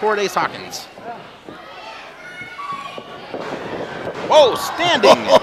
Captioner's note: audience shouts